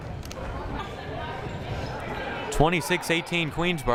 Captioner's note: crowd murmuring